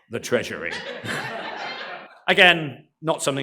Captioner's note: laughter